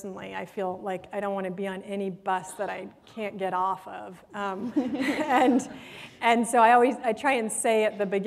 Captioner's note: laughter